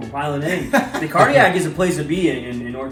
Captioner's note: chuckle